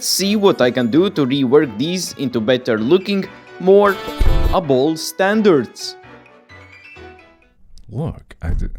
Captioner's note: smash